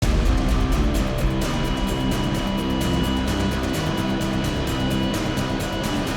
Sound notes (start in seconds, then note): 0.0 intense rock music; 1.8 microphone feedback